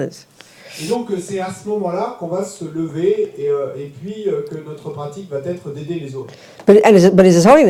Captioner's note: French